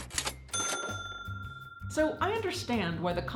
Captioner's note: bell dings